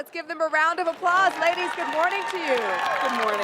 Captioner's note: applause/cheering